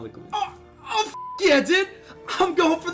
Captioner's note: beeps